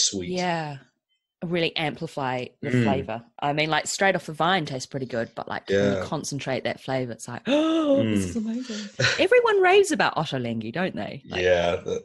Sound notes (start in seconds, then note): 8.0 gasps